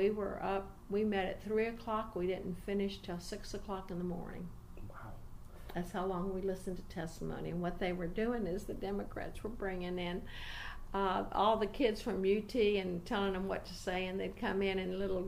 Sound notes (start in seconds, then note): none